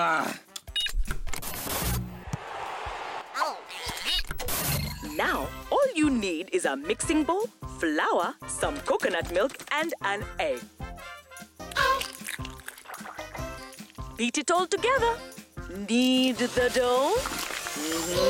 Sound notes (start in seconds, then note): 0.7 beep!; 2.2 crowd on television cheers